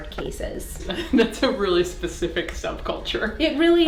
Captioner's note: laughs